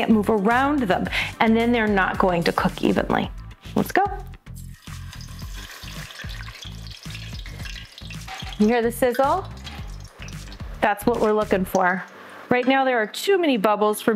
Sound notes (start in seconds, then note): 4.4 oil sizzling